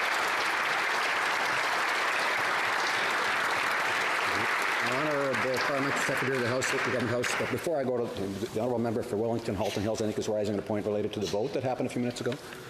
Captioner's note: cheering and Applause